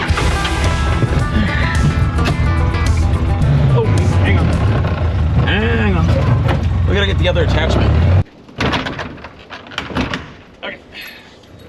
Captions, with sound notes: (vehicle engine chugging) Oh hang on, hang on. We gotta get the other attachment. Okay.